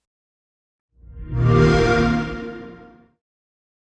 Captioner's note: xbox sound